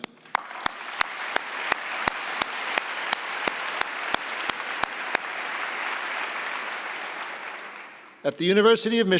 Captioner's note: applause